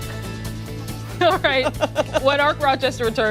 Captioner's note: laughter